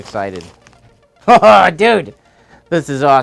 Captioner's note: laughs